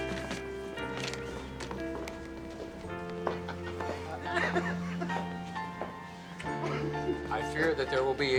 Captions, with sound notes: (laughter) I fear that there will be repercussions over this.